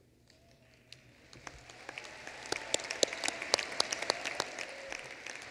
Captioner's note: applause